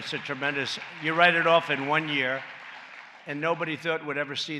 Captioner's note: applause